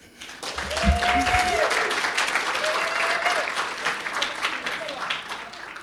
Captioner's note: audience cheering and applauding